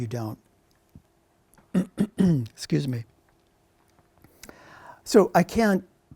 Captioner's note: clears throat